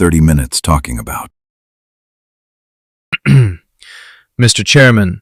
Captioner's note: clears throat